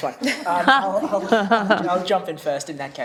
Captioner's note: laughs